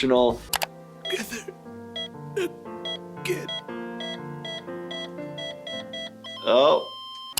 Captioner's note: machine flatline beeps; machine beeping